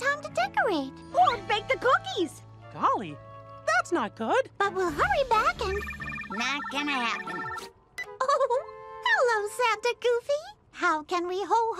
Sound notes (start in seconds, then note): 5.7 phone ringing; 8.2 giggles